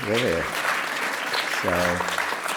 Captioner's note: applause